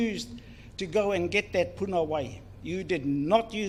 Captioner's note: speaks in foreign language